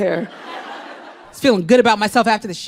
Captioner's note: crowd laughs